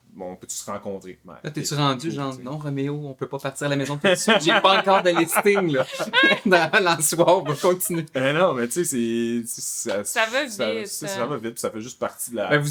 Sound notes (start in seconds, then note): 5.9 laughs